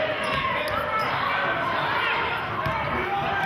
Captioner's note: yelling